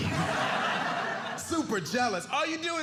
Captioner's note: audience laughing